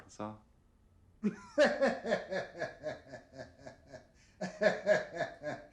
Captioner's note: Richard laughing